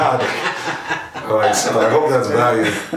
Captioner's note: laughing